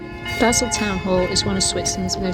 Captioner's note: bells ringing